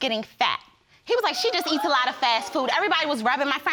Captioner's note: audience exclaims